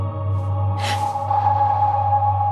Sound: faint thrumming; gasps

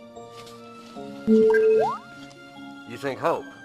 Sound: beeps hopefully

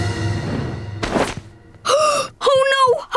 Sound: gasping

